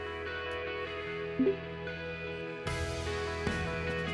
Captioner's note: message chime